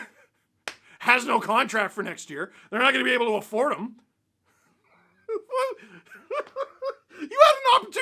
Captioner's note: laughter